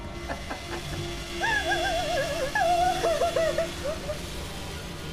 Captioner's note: laughing; Sara sobbing